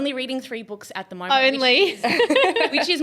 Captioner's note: laughs